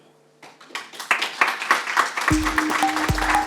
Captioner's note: applause; pleasant synth medley